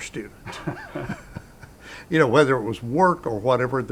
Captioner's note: both laughing